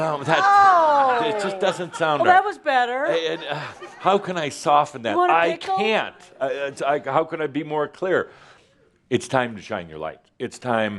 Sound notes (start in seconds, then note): 3.2 more chuckles